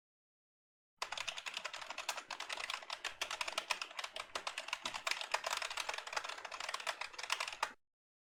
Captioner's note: intense typing